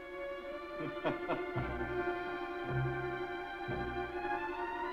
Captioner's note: soft chuckling; dramatic music